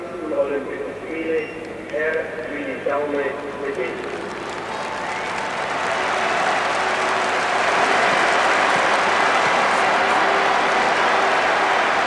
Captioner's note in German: applaus